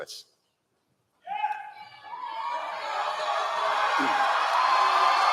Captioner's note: applause